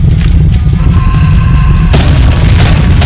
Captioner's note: ground rumbling; rocks clattering; scorpion beast shrieks; ground crashing; steps clanking